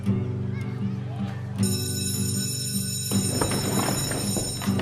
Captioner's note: school Bell